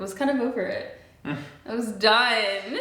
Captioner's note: chuckles; laughs